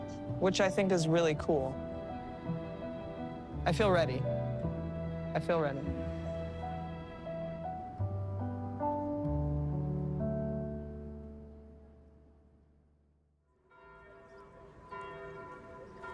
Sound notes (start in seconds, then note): 3.7 down-tempo music plays; 10.6 bells tolling